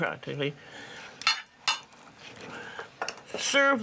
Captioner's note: dishes clatter